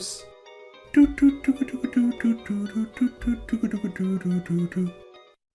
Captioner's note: Hums the Circus Theme to the same beat as the 'Resident Evil' music